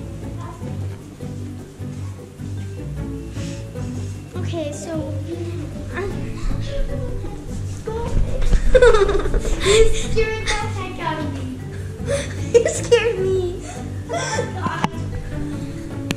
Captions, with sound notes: Okay. So... (giggles) You scared me.